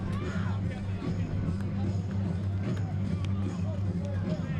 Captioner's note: fans chattering